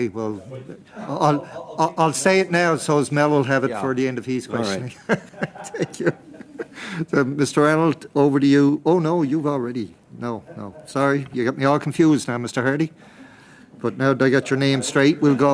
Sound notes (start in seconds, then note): 8.4 laughter